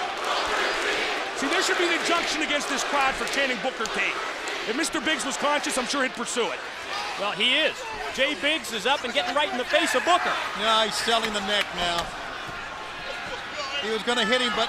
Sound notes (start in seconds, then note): 2.0 crowd cheering